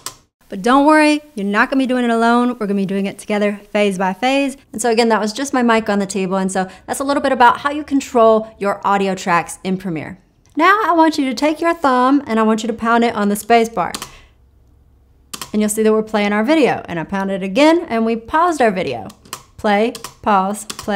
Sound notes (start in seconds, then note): 13.9 keyboard clicks